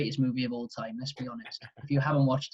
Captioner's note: laughing